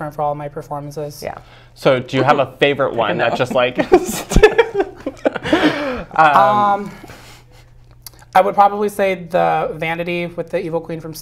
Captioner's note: laugh